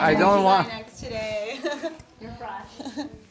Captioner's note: chuckling